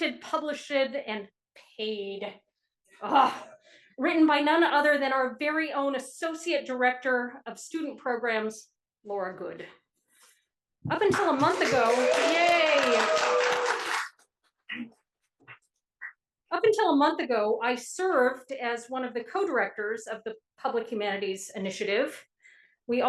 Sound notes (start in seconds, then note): 13.6 audience applauding